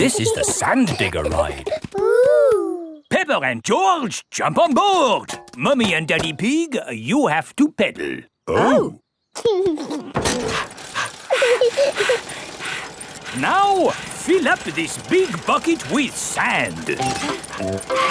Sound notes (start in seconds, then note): 9.7 chuckles; 10.2 mummy pig panting; 10.3 daddy pig panting; 11.6 peppa chuckles; 17.9 mummy and daddy pig panting; 17.9 peppa and george laughing